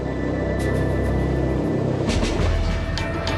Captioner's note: plane noise; suspenseful music playing